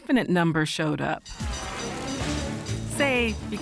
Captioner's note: bell ringing